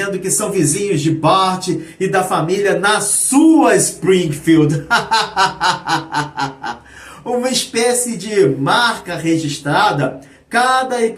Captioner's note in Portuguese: risadas